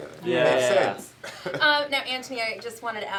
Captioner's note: Karamo laughs